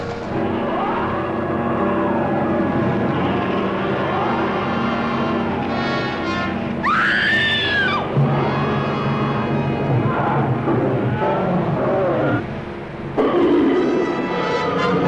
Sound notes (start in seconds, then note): 0.3 creature roaring; 5.8 creature roaring; 6.8 screaming